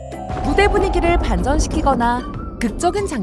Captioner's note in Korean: 신비로운 효과음; 천둥 효과음